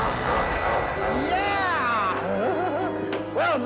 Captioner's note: monster laughs; laughs